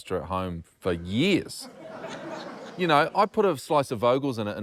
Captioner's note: laughter